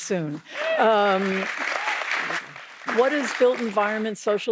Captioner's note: audience applauding